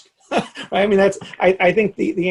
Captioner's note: laughing